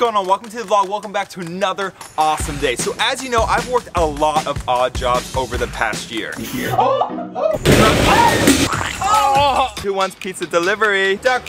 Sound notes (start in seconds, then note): 6.3 shouts; 6.3 woman shouts; 7.6 trash can bangs; 7.7 men shout